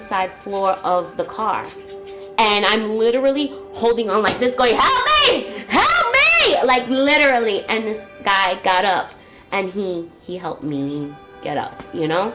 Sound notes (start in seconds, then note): 4.6 shouting